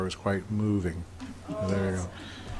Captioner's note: audience groaning and chuckling